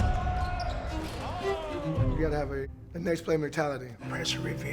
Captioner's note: players yelling